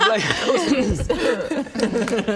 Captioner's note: mortally offended giggles